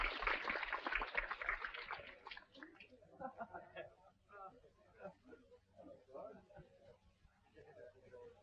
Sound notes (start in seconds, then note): 3.3 people chattering